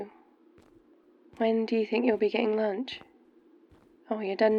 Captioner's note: footsteps